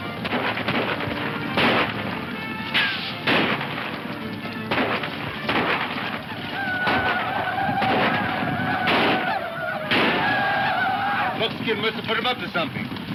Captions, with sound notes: (guns firing) (whooping) - Buckskin musta put them up to something.